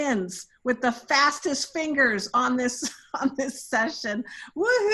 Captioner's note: laughs